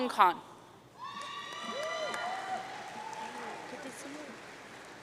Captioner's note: audience cheering